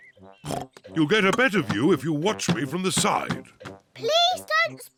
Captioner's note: oinks